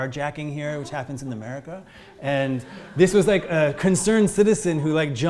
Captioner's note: audience laughs